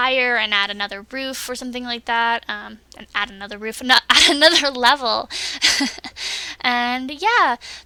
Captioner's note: laughs